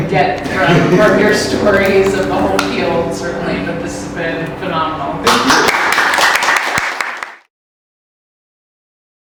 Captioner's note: applause